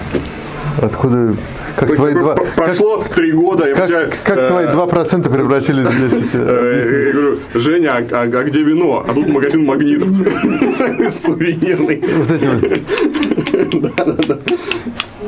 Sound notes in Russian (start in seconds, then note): 10.1 смех